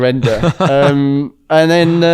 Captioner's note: laughs